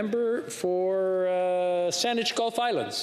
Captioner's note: speaking French